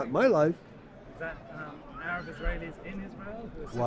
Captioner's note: voiceover